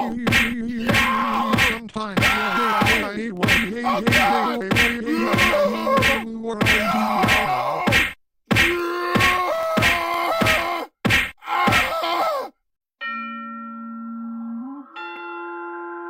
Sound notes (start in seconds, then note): 8.2 fighting and yelling finishing; 13.0 spooky chime plays